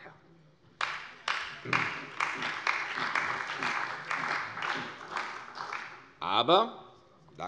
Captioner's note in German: Beifall bei der CDU und dem BÜNDNIS 90/DIE GRÜNEN